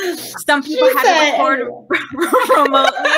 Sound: laughing

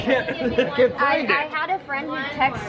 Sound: laughing

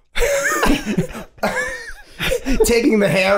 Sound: all laughing; Rob laughing

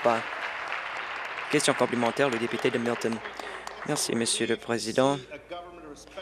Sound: applause

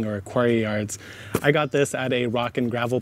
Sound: bag thumps

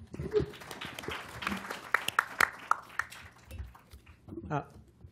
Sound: applause

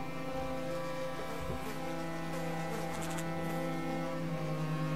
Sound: flies buzzing

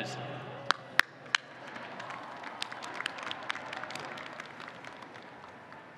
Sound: applause

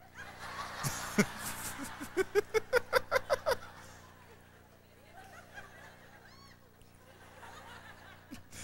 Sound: laughter

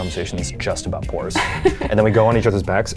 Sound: laughs

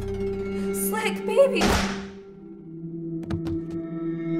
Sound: gun firing

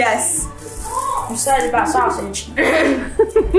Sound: laughs

